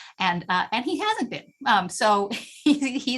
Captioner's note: laughter